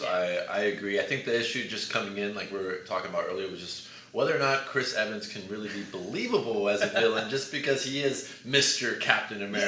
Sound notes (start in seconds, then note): 6.5 laughs